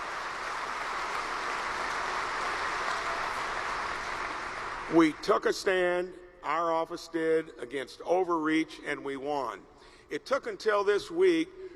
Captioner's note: applause